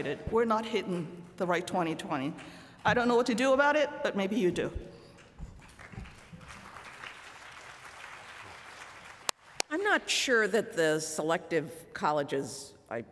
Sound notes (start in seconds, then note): 5.4 applause